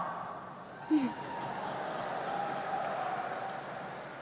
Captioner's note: crowd cheering